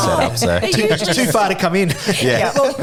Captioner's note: laughing